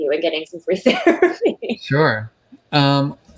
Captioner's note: laughing